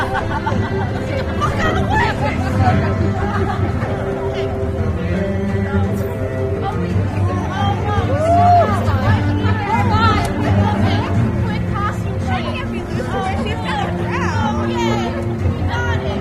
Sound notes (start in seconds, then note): 3.6 audience chatter